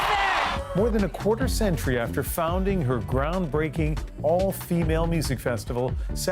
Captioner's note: cheers and Applause